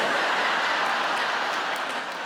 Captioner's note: audience laughs